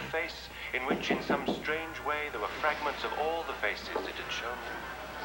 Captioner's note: knock on door